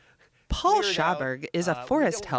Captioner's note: laughs